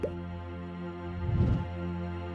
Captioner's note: screen popping